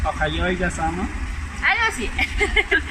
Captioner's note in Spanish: risas